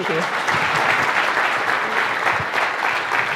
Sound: applause

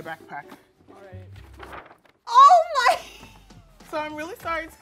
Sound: laughs

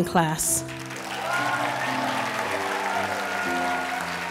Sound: applause

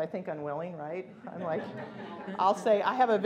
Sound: laughing

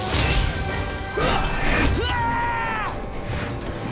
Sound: grunting

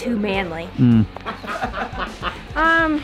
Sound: laughing

